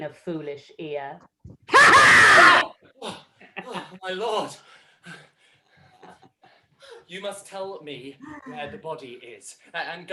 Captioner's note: yells